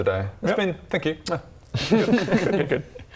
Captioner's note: mwah